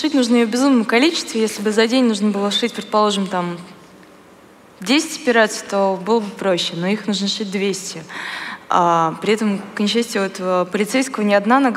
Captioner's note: foreign Language